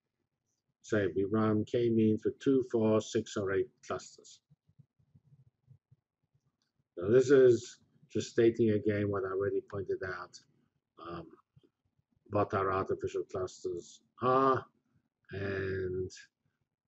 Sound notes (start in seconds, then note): 4.6 pause